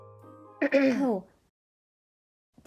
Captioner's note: clears throat